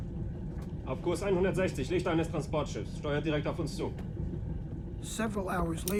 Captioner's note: speaking in foreign language